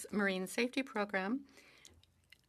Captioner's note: speaking French